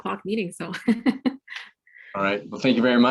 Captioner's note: laughs